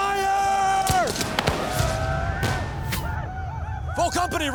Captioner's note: gunfire